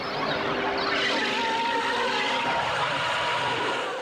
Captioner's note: screaming